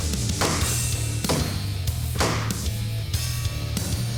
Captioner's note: chopping wood